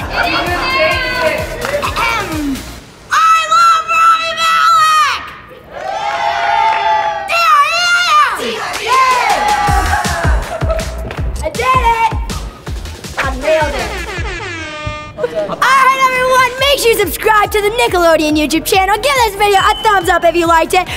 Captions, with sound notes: It is now! [clearing throat] I love Rami Malek! [cheering] D.R.E.A.M! [cheering] I did it. I nailed it. All right everyone, make sure you subscribe to the Nickelodeon YouTube channel Give this video a thumbs up if you liked it,